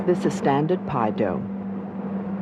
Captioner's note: voiceover